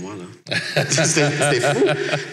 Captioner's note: laughs